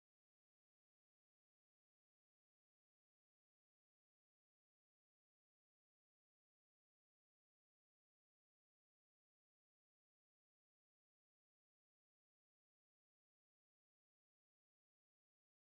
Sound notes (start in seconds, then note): none